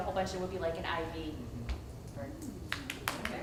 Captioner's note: applause